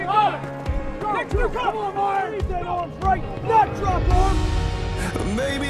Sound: drill Sergeants yelling

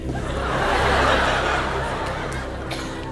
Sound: laughs

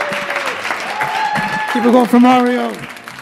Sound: audience applauding

